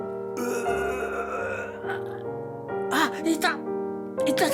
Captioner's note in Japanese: 吐いてる音